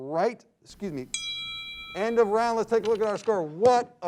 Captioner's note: bell dings